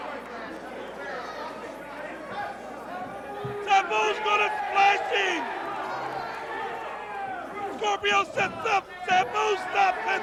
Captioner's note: crowd chatter